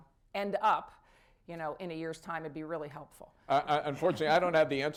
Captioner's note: laughter